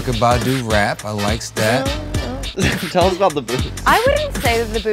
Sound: laugh

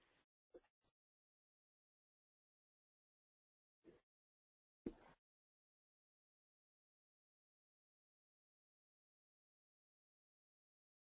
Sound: silence

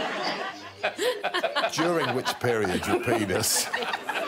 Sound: all laughing

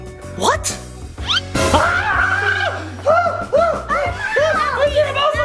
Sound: screams

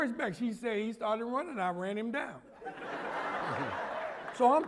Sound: laughter

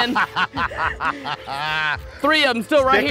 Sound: laughs loudly

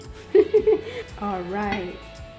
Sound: laughing

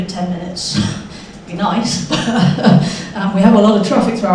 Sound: chuckles

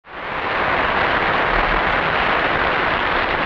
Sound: audience applauding

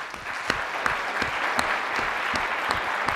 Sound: applause

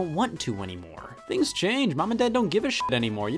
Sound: beep

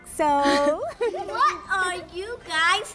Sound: Miss Judy and Miss Audrey laugh

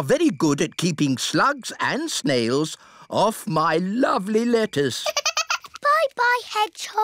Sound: giggles

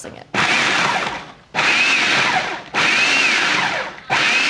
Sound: food processor whirs

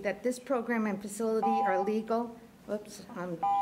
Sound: timer buzzing

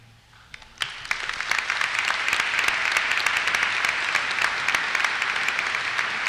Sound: applause

